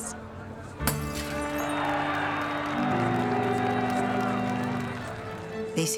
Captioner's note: bottle breaks, crowd cheers